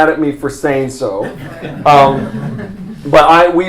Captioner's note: laughter